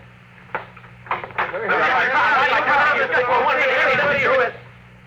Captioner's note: chatter